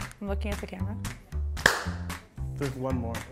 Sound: clap

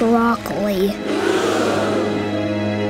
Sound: crowd gasps

